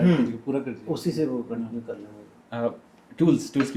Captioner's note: clearing throat